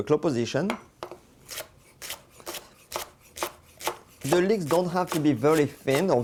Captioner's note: chopping sounds